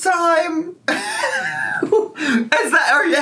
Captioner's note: wheezing